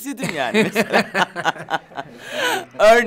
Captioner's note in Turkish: Gülüyorlar